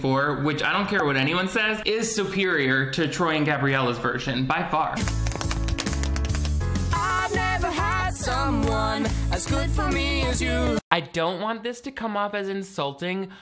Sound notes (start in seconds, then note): 5.0 tap shoes clicking